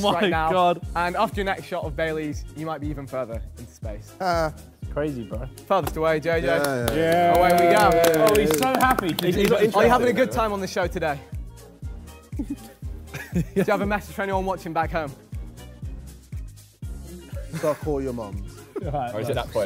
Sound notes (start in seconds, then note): 6.5 Sidemen cheer